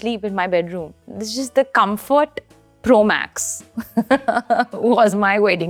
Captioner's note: chuckles